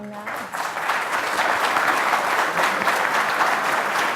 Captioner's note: applause